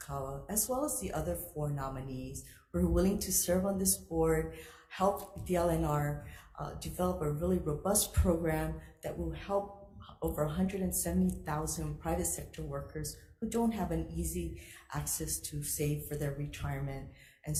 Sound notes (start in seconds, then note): none